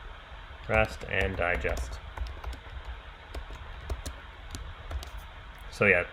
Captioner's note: keyboard clicking